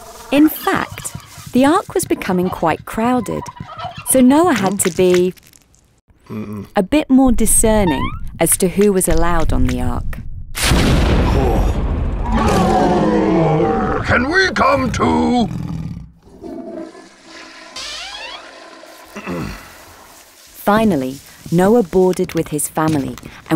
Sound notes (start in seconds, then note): 10.7 foot stomping; 12.3 dinosaur roaring; 16.3 toilet flushing